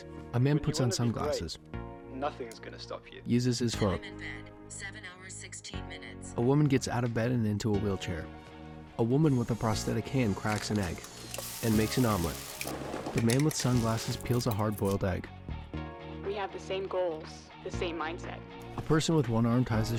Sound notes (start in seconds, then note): 9.1 electronic whirring; 11.1 sizzling; 12.4 clattering